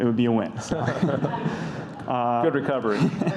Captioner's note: audience laughs